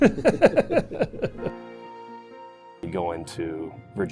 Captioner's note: laughing